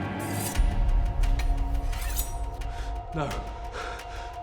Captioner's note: suspenseful music; metal scraping